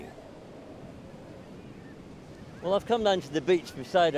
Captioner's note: wind whistling